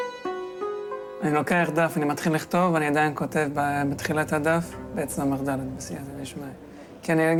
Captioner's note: young man speaking in foreign language